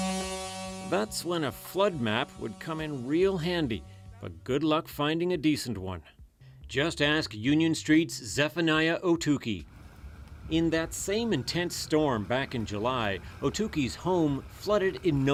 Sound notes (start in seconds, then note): 3.2 horn